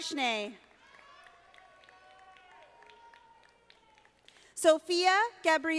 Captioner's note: audience applauding